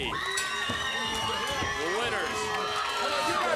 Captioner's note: crowd cheering